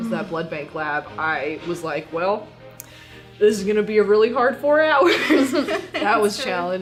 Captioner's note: laughter